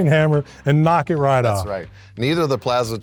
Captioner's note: laughing